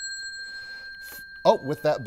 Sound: bell ringing

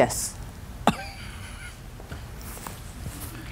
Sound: laughs

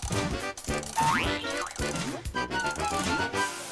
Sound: cranking

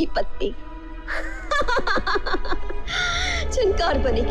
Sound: laughs

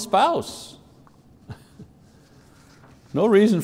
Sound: laughs

